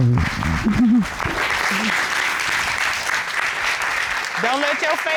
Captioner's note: cheers and applause